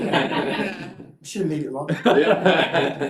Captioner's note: laughter